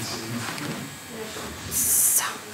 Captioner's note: quietly